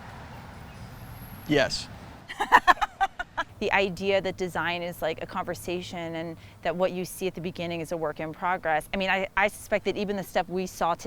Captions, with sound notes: - Yes. (laughing) - The idea that design is like a conversation and that what you see at the beginning is a work in progress. I mean I suspect that even the step we saw today